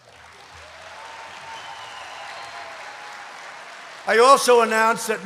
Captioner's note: applause